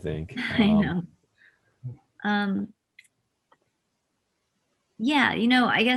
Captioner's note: laughs